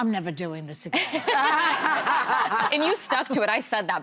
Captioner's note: all laughing